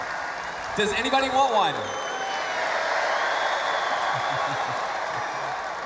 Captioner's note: cheering/Applause